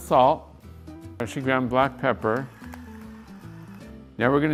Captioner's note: device whirring